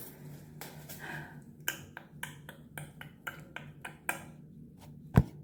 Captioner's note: ASMR noises